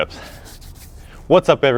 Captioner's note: rubs hands